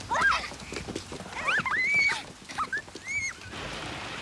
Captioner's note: giggling